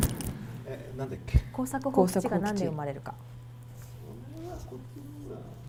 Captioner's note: speaking foreign language